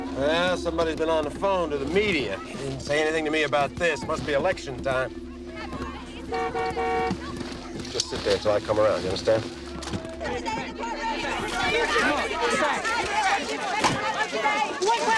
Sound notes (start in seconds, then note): 6.1 car honks; 9.5 clamoring